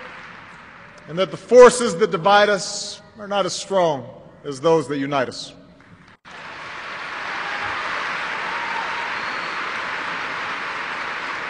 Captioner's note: applause